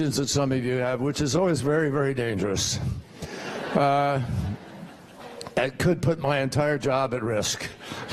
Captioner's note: laughter